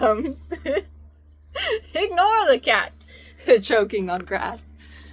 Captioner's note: laughs